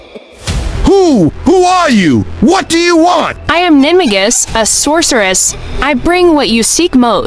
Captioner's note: hoarse